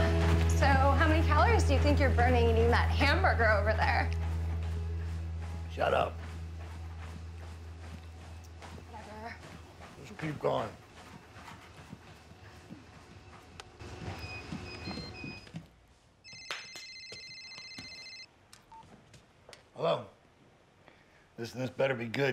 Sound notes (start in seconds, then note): 13.9 treadmill beeps; 16.2 cellphone rings